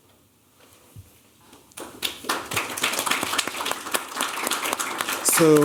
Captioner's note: applause